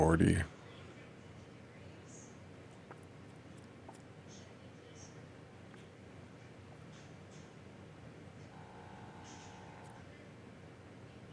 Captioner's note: silence